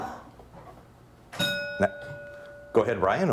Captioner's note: bell ringing